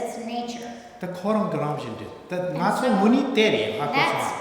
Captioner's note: speaking tibetan